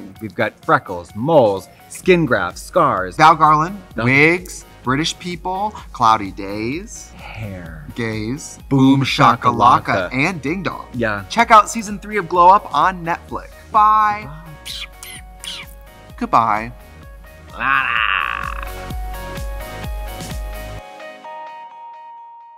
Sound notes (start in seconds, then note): 14.3 Katya smooching; 17.5 Katya growls; 18.5 upbeat music